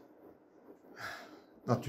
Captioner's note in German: seufzt